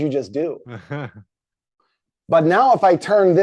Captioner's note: chuckles